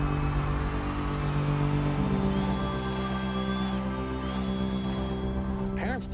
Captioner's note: crowd chanting